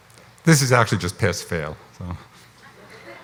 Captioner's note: laughs